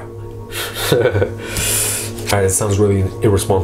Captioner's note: laughs